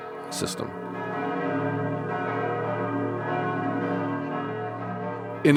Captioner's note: church bells